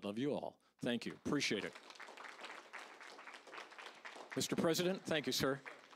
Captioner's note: applause